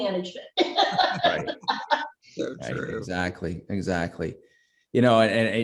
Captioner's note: chuckles happily